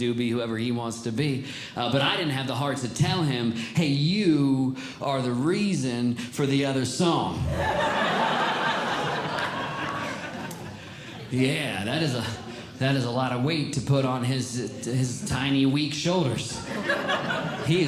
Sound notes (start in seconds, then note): 7.4 audience Laughing